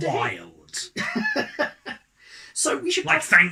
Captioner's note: laugh